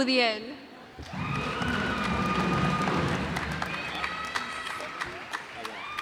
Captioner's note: cheers and applause